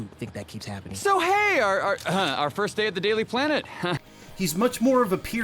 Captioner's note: coughs